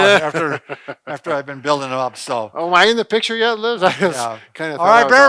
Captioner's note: chuckles